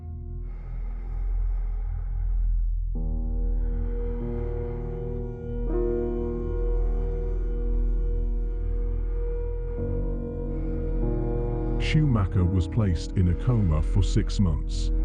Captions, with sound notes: (breath huffing) (ominous music) Schumacher was placed in a coma for six months.